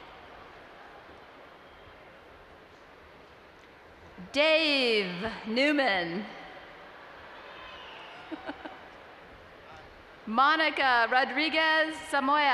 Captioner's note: laughs